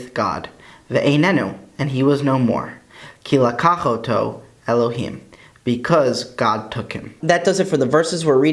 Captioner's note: Hebrew